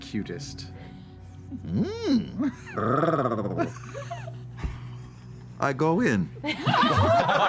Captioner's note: growls; laughter